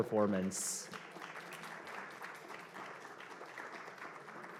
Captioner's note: applause